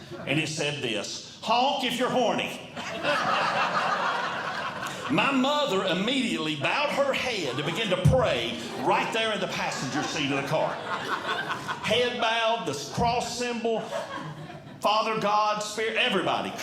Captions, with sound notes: And it said this, "Honk if you're horny." [Audience Laughing] My mother immediately bowed her head to begin to pray right there in the passenger seat of the car. [Audience Laughing] Head bowed, the cross symbol, "Father God spare everybody."